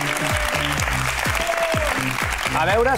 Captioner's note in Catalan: aplaudiments